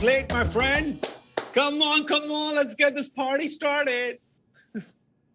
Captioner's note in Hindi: ताली बजाते हुए